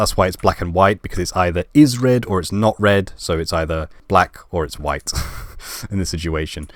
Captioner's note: laugh